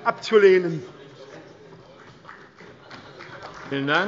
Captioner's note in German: Beifall bei Abgeordneten der CDU